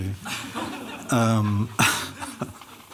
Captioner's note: laughter